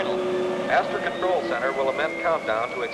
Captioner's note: man on PA